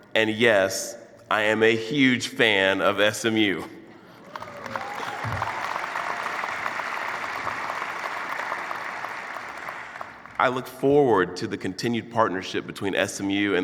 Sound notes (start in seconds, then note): 4.2 clapping and cheering